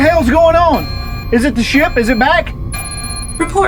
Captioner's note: alarm blaring